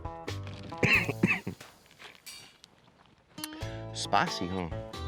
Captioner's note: coughs